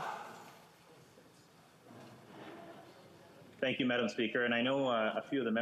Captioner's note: speaking French